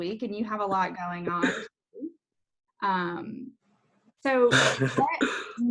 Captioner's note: laughs